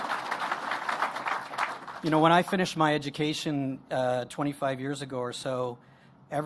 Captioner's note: applause